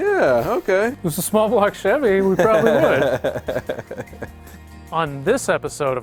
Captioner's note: laughs